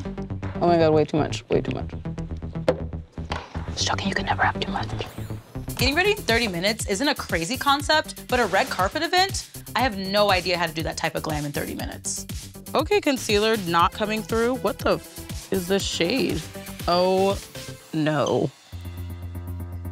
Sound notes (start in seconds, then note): none